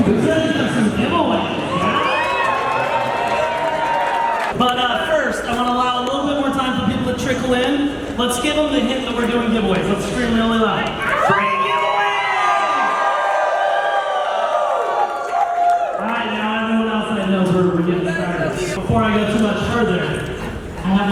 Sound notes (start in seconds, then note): 1.1 audience cheering; 11.1 audience screaming and cheering